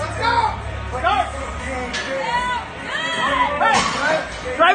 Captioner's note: spectators cheering